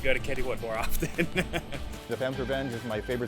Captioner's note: laughs